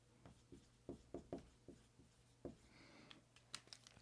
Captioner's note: pen scratching